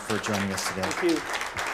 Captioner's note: applause